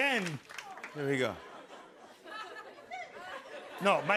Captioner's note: laughter